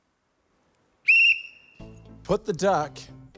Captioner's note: whistle blares